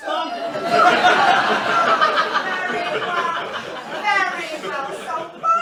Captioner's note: mrs hardcastle laughs